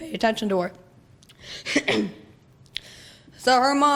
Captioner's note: coughs